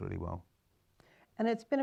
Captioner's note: pause